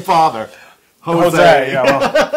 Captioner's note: laugh; laugh